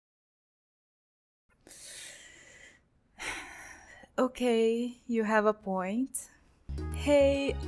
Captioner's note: sigh